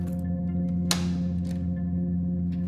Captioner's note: none